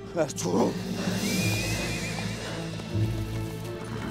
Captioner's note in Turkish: At kişneme sesi